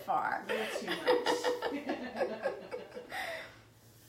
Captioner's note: laughing